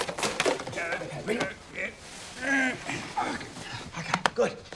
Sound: grunting

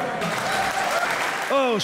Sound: applause

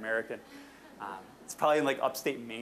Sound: audience chuckling

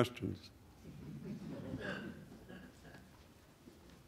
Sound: laughter from the audience

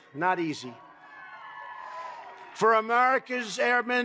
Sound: applause

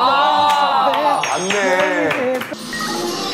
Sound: applause

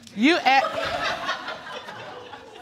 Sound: audience laughing

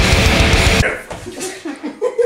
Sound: laughter

